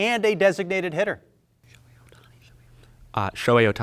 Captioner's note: indistinct conversation